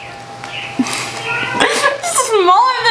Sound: laughs

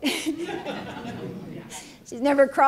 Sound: laughing

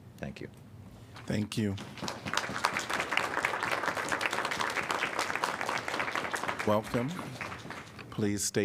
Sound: applause

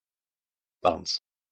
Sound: fast Pronunciation

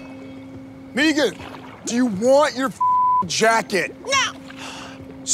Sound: beep

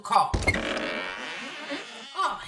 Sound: door creaks

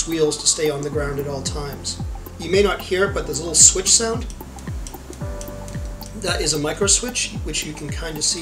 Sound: clicking

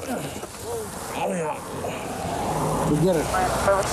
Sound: man grunting

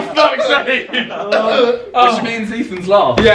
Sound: laughing

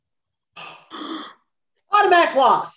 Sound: gasp!

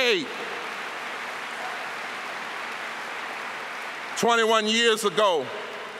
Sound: applause

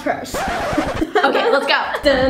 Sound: track scratches

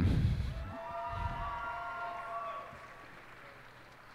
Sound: cheers and applause

